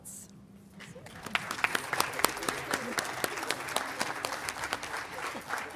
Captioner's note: audience applauding